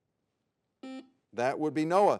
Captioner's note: buzzer beeps